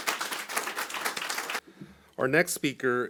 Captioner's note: audience applauding